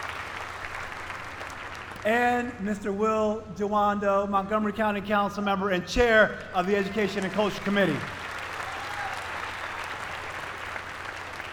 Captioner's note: applause